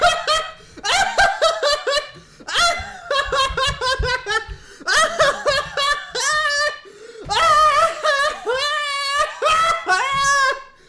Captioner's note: laughter